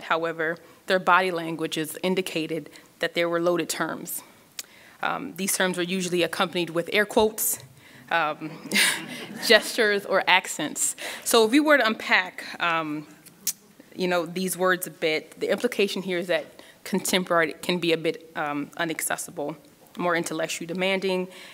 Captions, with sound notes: However, their body languages indicated that there were loaded terms. These terms were usually accompanied with air quotes, (audience laughs) (laughs) gestures, or accents. So if we were to unpack these words a bit, the implication here is that contemporary can be be a bit unaccessible, more intellectually demanding,